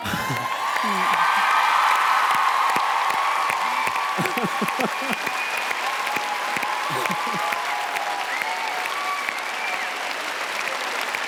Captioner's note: applause